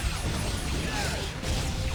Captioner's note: explosion